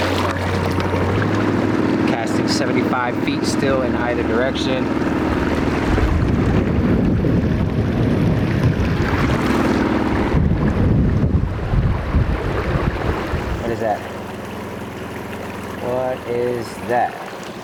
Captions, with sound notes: Casting 75 feet still in either direction. (boat engine rumbling) What is that? What is that?